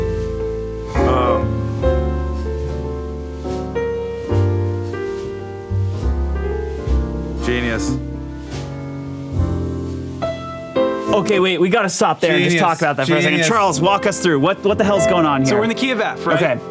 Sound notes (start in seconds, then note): 1.1 exclaims loudly; 2.8 mellow piano music